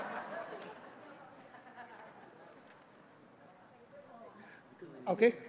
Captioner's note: laughter